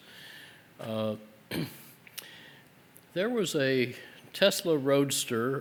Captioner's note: cough